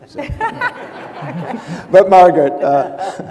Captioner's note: audience laughs